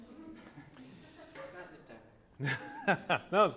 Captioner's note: laughter